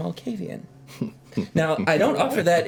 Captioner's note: Victor chuckles